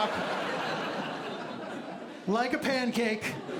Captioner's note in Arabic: ضحك